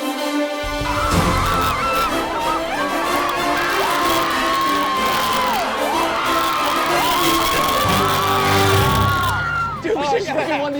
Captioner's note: screaming